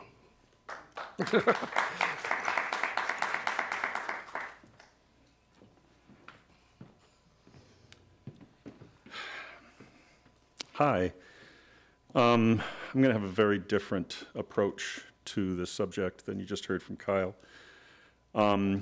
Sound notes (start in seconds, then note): 0.6 applause